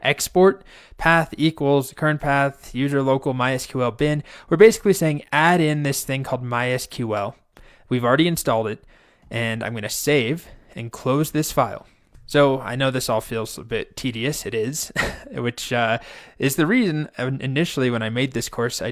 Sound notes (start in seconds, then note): 14.8 instructor laughing